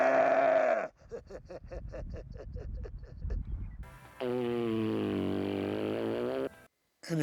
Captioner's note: laugh